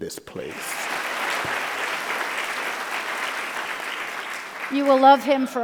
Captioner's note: audience applauding